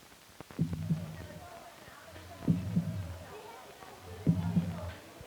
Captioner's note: chatter